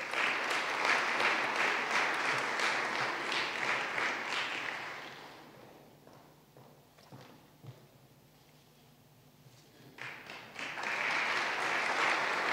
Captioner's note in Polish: oklaski